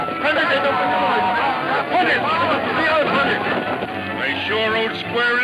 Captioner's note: shouting in foreign language